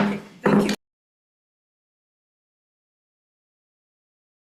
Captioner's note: gavel bangs